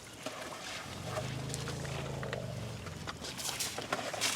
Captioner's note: chuffs